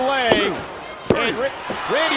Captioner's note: bell dinging